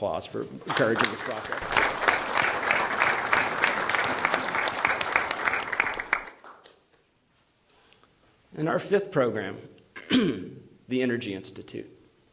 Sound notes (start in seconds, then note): 6.2 applause